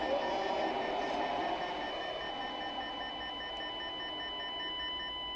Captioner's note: high-Pitched tone